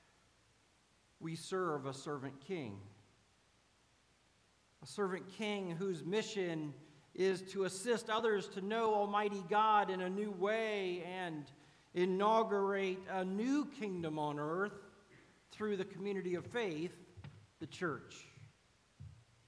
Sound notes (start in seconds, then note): none